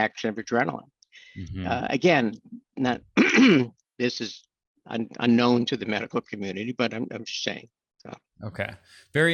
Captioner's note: clears throat